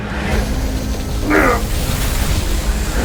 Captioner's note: muffled groan